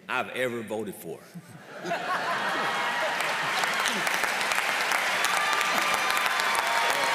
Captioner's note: applause